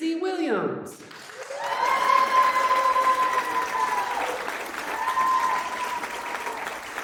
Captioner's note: audience clapping; audience cheering